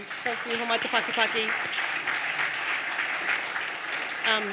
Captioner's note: audience applauds